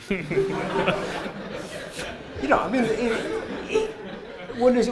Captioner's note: laughter